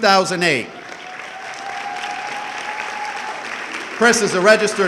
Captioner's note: audience clapping and cheering